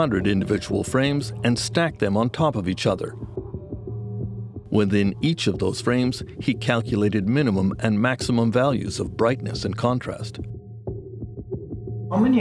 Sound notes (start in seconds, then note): none